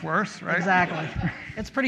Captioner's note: audience laughs